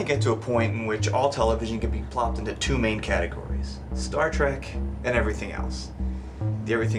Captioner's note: none